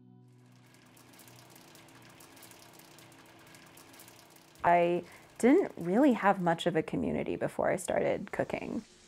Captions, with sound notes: (oil popping) I didn't really have much of a community before I started cooking.